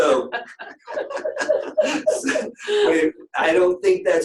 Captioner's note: laughter